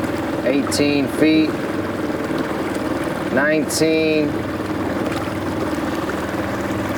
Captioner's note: motor puttering